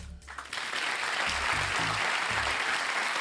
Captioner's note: applause